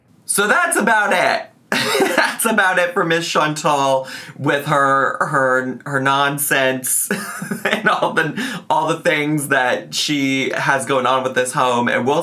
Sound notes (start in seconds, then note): 1.8 laughs; 7.1 laughs